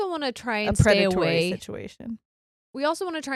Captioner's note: mumbles